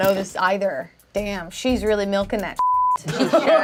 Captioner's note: beep; laughs